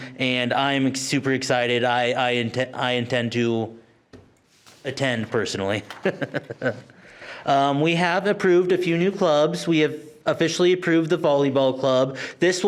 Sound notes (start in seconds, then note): 5.9 laughs